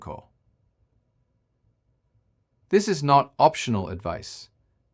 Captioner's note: pause